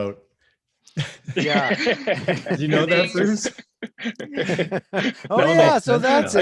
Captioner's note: chuckles